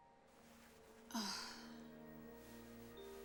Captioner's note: sighs